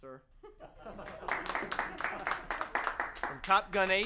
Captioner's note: all laughing